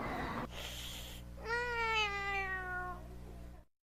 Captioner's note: hissing and meowing